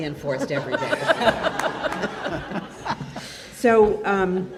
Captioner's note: audience laughs